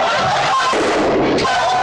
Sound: gunshot

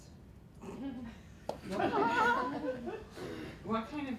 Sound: laughter

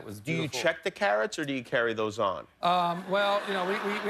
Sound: laughter

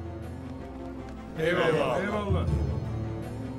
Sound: Hep bir ağızdan

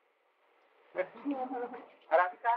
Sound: laughter

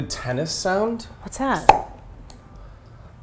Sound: tennis racket sound

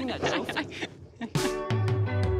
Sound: laughs

